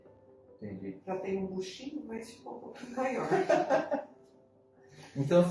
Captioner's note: laughter